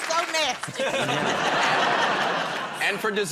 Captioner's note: laughter